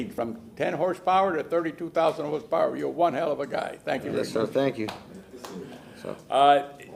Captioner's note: speaking spanish